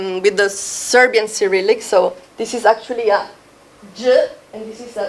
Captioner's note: speaking foreign language